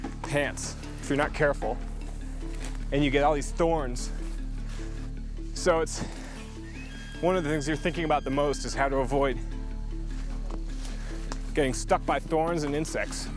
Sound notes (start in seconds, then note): none